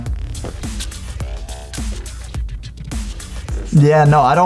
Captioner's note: sprays